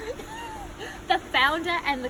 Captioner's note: laughing